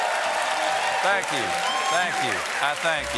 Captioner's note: cheers and applause